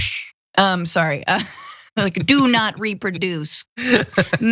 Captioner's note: laugh